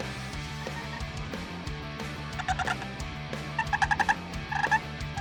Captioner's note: turkey calling